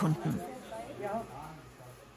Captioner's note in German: Stimmengewirr